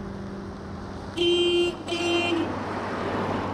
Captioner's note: blares horn